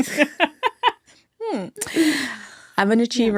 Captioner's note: laughing